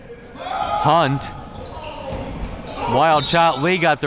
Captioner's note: whistle blowing